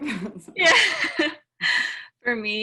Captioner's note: laugh